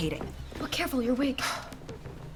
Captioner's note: sighs